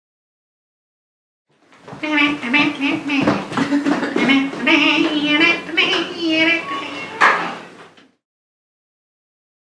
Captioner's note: gibbering